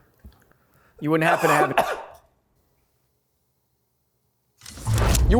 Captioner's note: person coughs